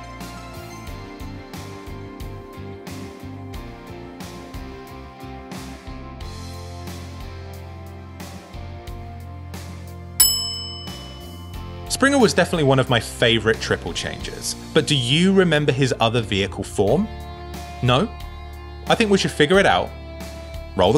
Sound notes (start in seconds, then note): 0.3 gentle rock music; 10.2 bell dings